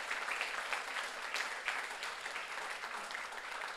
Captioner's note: audience applauds